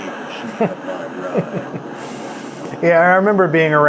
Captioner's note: laughing